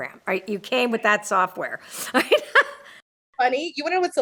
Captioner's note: laughs